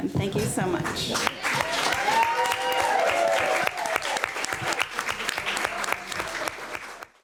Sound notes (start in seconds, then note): 1.1 room cheering